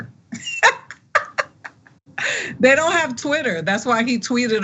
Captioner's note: laugh